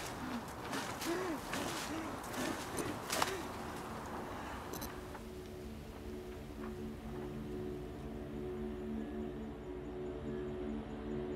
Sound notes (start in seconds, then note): 1.9 heavy breathing; 8.1 ominous music